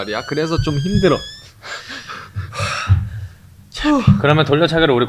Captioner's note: whew, deep breath